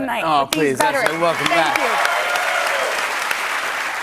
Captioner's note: cheers and applause